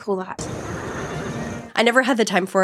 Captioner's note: horse neighing